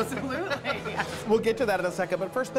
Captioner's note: laughter